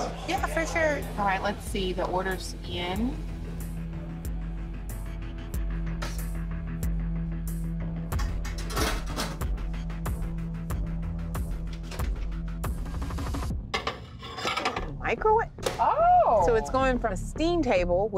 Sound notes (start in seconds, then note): 2.2 tense music; 8.2 lid clanging; 13.7 plate clattering